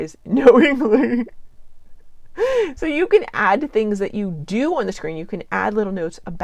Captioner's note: laughs